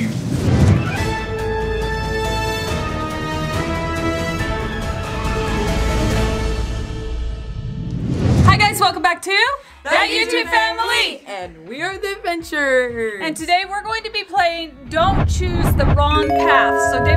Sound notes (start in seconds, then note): 0.2 air whooshing; 1.4 adventure music; 7.1 air whooshing